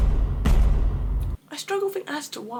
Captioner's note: dramatic thuds